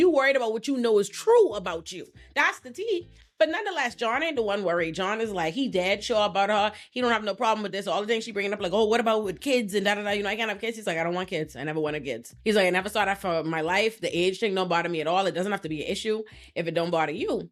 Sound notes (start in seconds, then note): none